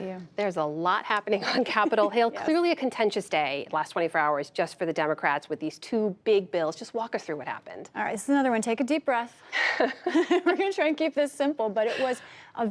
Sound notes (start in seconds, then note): 9.6 laughter